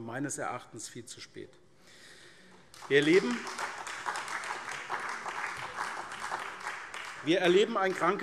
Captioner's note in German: Beifall SPD